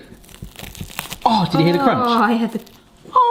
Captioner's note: taco crunch